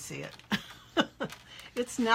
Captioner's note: laughs